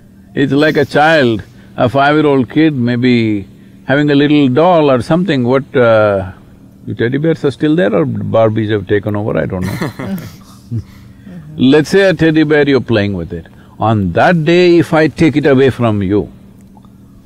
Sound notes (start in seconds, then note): 9.6 laughter